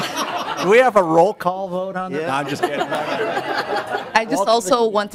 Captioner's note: laughter